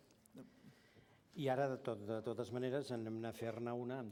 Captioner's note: non-english speech